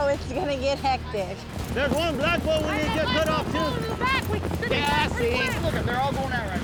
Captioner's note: overlapping yelling